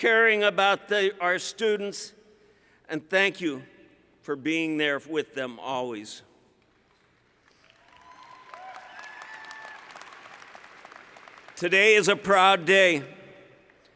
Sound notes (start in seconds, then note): 6.8 applause